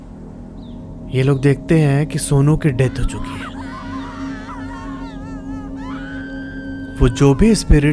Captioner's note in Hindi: रोने की आवाज़